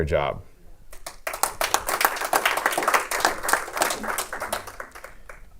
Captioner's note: clapping